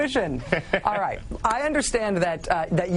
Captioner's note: laughs